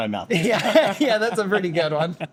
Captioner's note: laughs